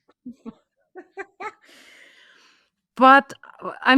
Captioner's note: laughs